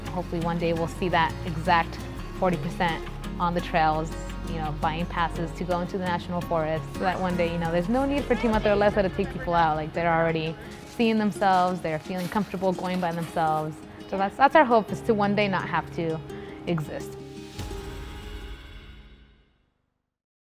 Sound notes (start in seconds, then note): 8.4 speaking Spanish